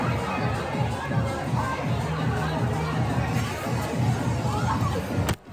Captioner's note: laughs